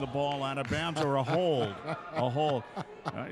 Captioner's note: laughing